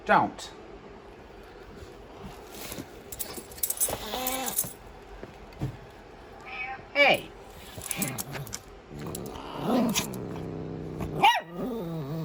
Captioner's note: Caprice hisses twice, then growls at Ava; Ella barks